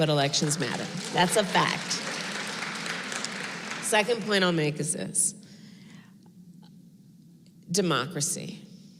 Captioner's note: applause